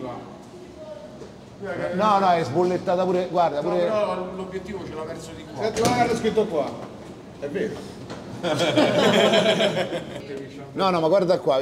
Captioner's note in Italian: Risate